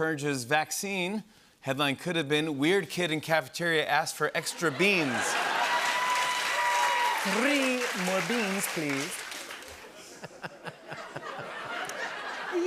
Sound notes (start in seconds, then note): 7.1 posh English accent; 9.7 laughter; 12.4 posh English accent